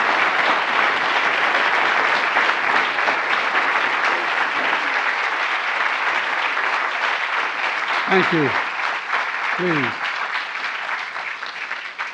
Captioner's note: applause